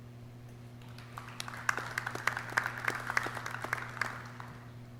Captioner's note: clapping